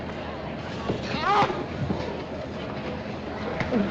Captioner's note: joey yelps